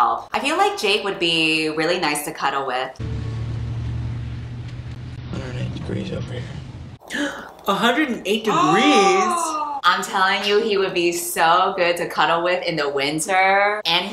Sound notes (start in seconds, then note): 7.1 gasps